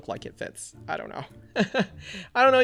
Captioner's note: laughs